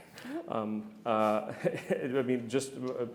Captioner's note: all laughing